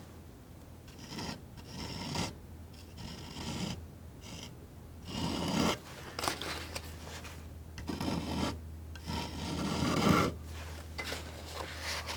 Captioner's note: scratching